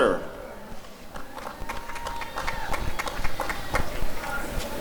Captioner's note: applause and cheering